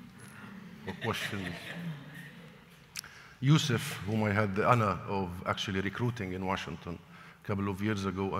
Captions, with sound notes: or questions (laughter), Yusuf whom we had the honor of actually recruiting in Washington, a couple of years ago,